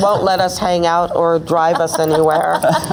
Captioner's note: laughs